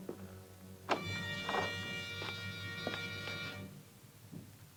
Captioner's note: door opens